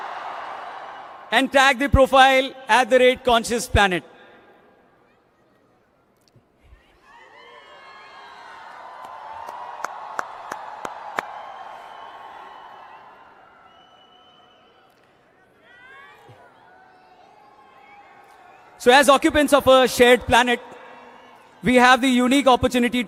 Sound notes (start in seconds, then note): 8.7 cheering